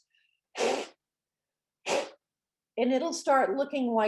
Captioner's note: blowing air